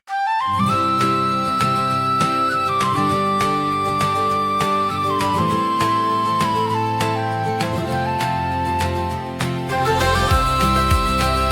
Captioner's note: applause